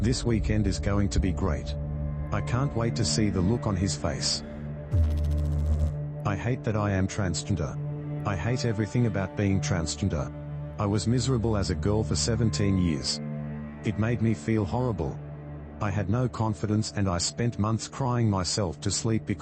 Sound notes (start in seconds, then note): 4.9 electrical noise